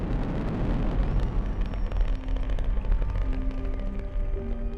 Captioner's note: people cheering